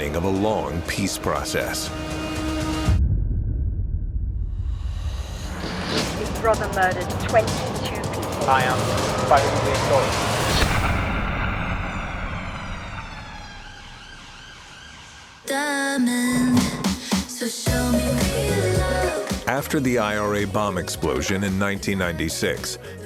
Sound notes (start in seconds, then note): 2.6 ominous music; 13.4 distant sirens blaring; 16.2 upbeat music